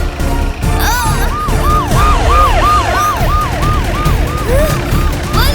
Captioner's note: police siren wails